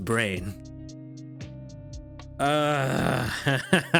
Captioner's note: groans